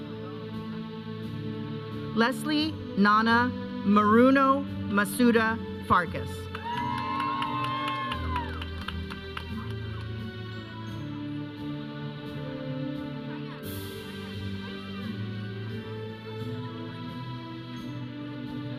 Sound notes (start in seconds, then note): 6.6 audience cheering; 9.3 processional music; 13.1 audience chattering; 13.5 processional music